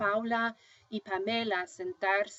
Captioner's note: speaking spanish